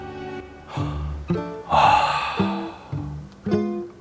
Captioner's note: aaah…sigh